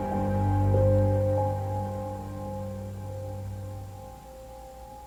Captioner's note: none